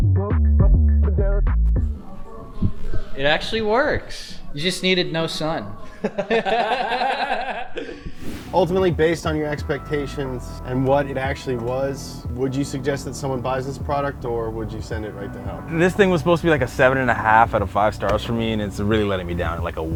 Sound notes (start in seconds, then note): 5.8 all laugh; 8.1 transition whooshes